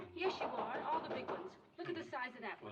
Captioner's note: knocking On Door